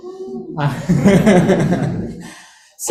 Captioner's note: laughter